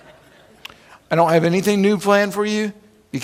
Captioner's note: laughing